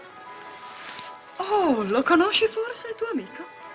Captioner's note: speaking in italian